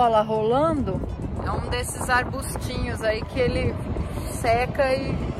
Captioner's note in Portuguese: tumbleweed